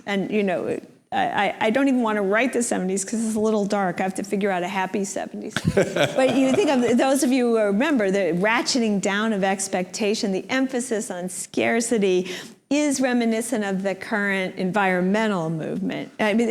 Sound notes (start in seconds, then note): 5.5 laughs